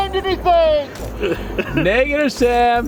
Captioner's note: laughs